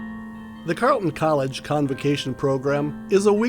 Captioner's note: voiceover